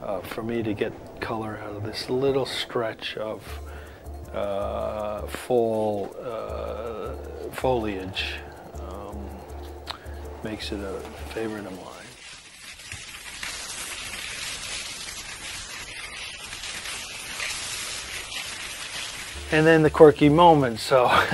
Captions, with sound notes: So for me to get color out of this little stretch of foliage makes it a favorite of mine. (skis gliding) And then the quirky moment.